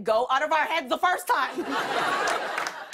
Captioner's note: laughter